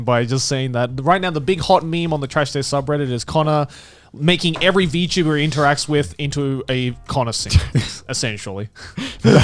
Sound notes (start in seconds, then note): 8.9 Connor laughing